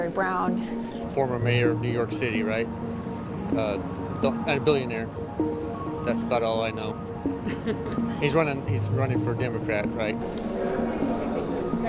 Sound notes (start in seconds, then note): 4.4 chuckles